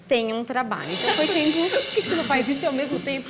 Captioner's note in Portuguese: risos